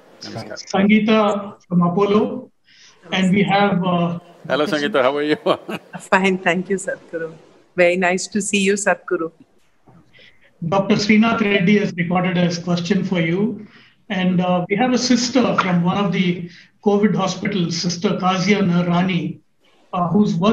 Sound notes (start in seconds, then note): 4.5 laughs